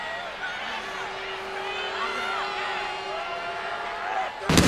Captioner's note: audience jeering